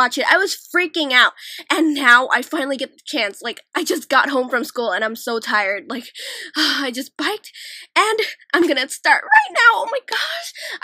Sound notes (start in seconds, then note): 6.2 exhale